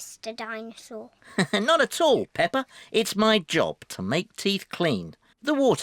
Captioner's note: laughs